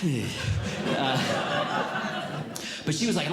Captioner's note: audience Laughing